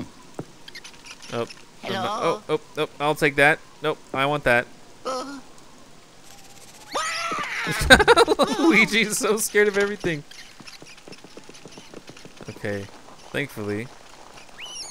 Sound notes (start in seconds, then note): 2.0 voiceover; 6.3 shrieks; 7.3 laughter